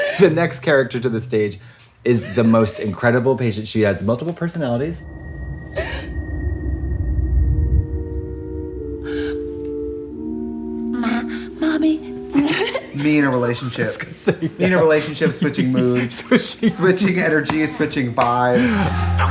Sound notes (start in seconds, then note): 5.8 woman sobs